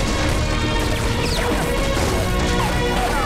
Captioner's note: Gunshots